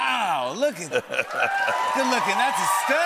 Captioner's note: laughter; cheers and applause